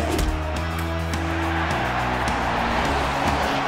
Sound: crowd cheering

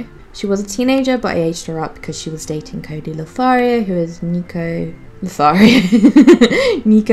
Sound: laughs

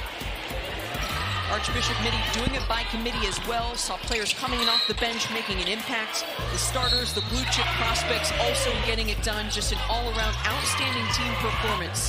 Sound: crowd noise

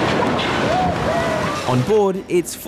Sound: people cheer

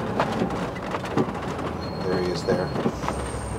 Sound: car rattles

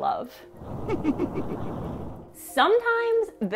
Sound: Majora’s Mask audio of a really creepy echoing chuckle

